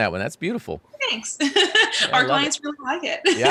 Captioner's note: laughs